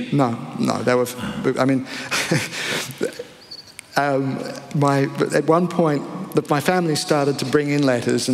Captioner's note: laughter